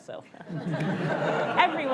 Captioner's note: audience laughs